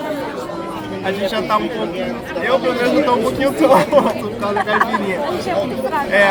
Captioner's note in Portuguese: risadas